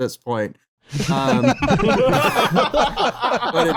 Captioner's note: laughter